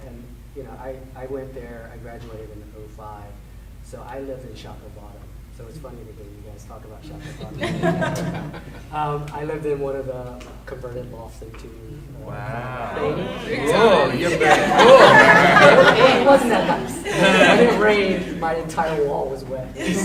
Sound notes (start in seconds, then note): 7.1 laughing drowns out speaker; 14.3 panel laughing